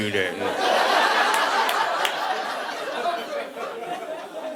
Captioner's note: audience laughing